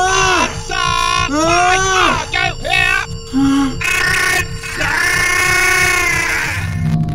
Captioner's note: strangulated - in pain